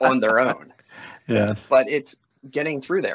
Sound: laughs

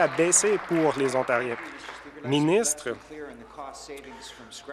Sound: applause

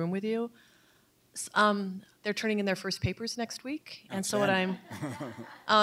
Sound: chuckles

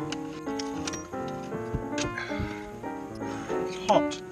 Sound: sighs

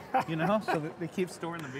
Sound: laughing

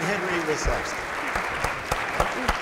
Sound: applause

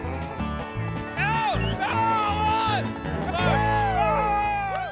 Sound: shouting, cheering

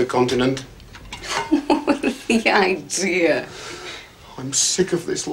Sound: laughs

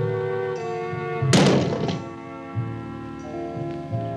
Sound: loud thud

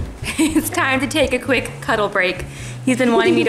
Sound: laughs

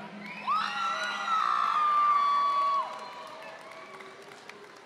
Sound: audience applauding

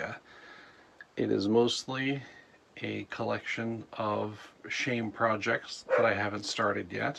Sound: dog barks

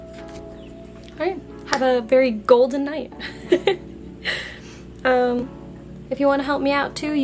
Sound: giggles like a DORK

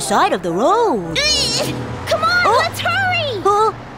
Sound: Tayo grunts

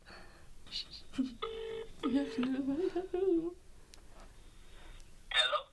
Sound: phone ringing

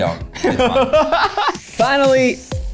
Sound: laughing

